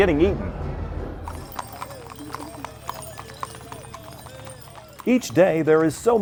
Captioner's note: horse hooves clomping